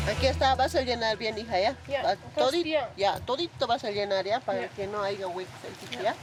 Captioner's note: speaking in foreign language